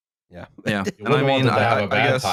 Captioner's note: chuckles softly